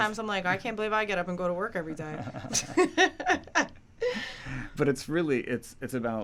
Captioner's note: laughing